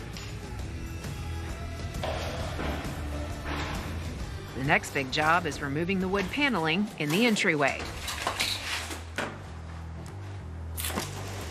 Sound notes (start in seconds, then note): 0.2 light rock music; 7.8 wood clattering